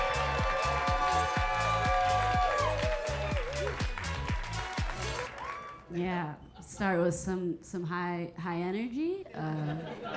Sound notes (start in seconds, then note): 0.0 upbeat music; 0.0 audience cheering; 9.6 audience laughing